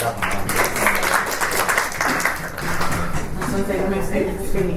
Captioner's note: panellists and audience applaud